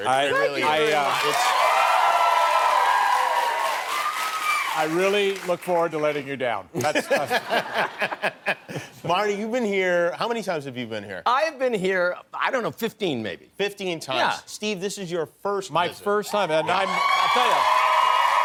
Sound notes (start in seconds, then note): 0.7 applause; 6.8 laughter